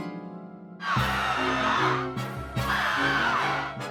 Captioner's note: stuttered screaming